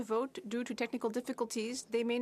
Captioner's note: speaking French